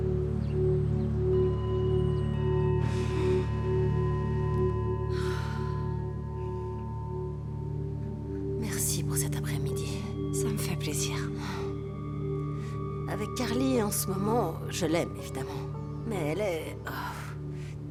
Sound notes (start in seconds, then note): 2.9 chimes ringing; 5.1 breathing deeply